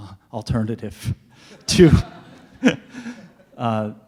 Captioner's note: laughing